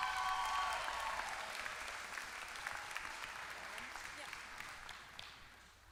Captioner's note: applause